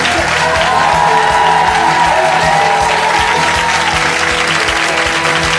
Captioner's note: audience cheering